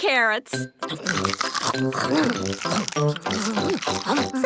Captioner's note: crunch